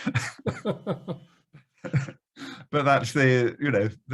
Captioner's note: laughing loudly